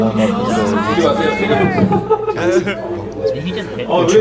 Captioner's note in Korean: 웃음